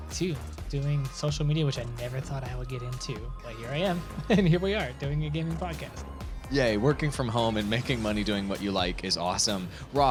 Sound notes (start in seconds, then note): 4.0 chuckles